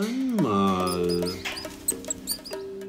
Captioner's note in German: Fiepen